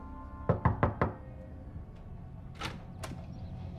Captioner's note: door knocks; door latch clicks